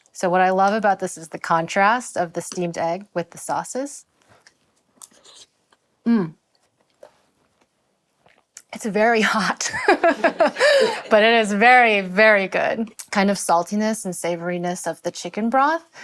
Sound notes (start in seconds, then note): 9.7 laughs